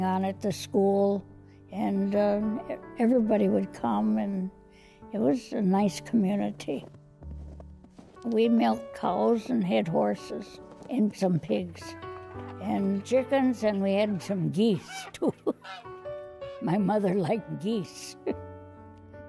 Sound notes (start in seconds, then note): 11.8 geese honking; 14.8 chuckles